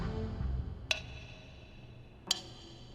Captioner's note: slow ticking